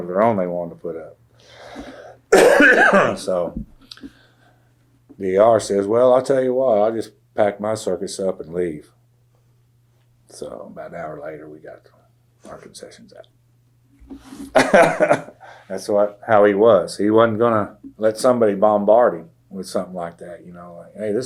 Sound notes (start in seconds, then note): 14.5 laughs